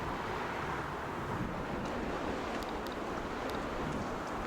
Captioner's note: wind howling